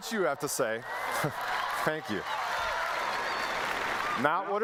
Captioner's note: applause